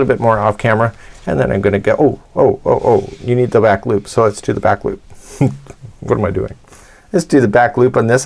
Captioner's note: chuckles